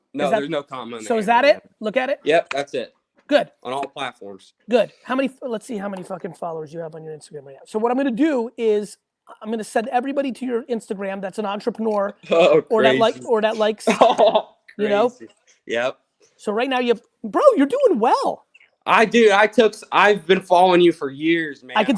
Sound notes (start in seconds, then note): 12.3 laughs